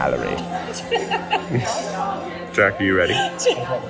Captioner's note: laughs